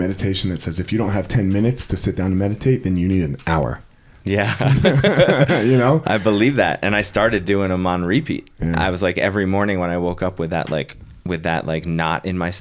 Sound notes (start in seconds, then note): 4.3 laughing